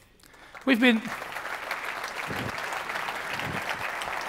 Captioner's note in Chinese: 鼓掌